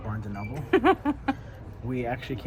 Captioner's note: giggling